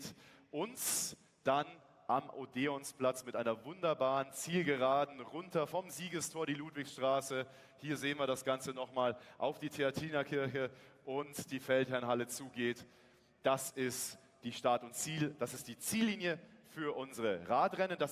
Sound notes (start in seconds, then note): none